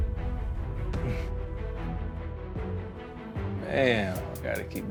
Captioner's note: chuckles